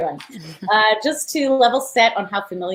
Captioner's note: chuckling